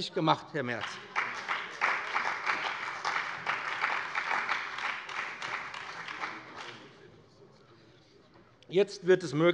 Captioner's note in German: Beifall bei dem BÜNDNIS 90/DIE GRÜNEN und der CDU